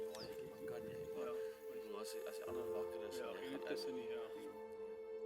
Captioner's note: speaking foreign language